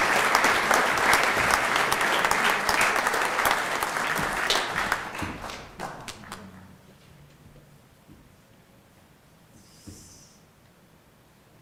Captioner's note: applause